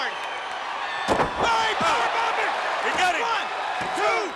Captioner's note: wrestlers thudding; commentators vocalizing